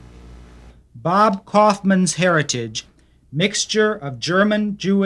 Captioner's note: voiceover